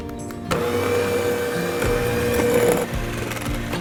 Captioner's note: mixer whirring